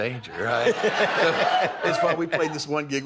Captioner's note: laughter